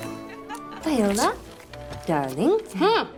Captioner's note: bright upbeat music; Olivia laughing